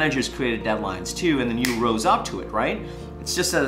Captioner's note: snapping